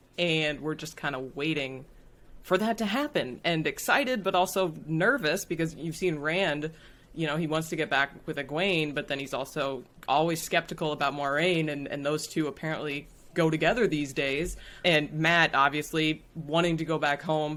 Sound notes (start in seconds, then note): none